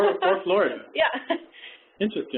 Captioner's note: laughs